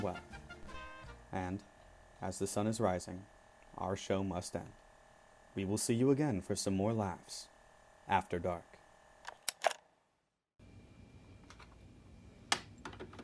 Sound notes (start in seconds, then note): 9.2 cassette tape ejects